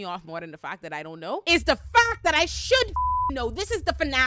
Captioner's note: beep